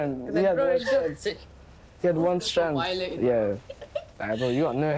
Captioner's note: laughing